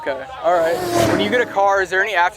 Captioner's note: car revs